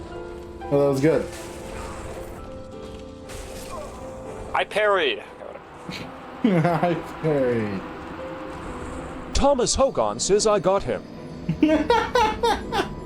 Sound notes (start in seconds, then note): 6.8 laughs